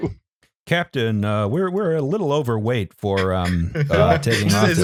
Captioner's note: flight officer voice